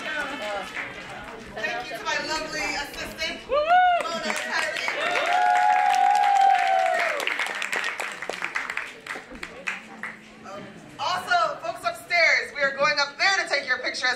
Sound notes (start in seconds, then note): 7.6 applause